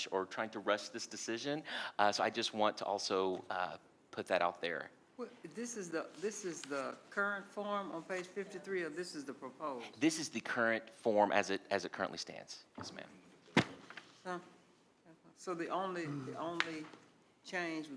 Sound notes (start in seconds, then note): 14.3 speaking quietly